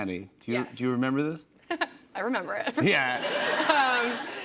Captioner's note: laughs; laughter